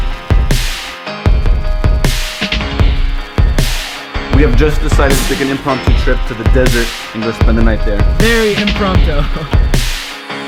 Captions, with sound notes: We have just decided to take an impromptu trip to the desert and go spend the night there Very impromptu! (Chuckling)